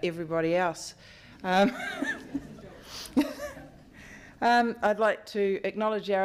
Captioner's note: laughs